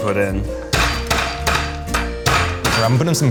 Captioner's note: banging fist on table